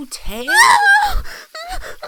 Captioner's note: cries